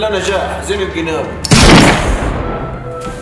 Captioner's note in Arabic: صوت مسدس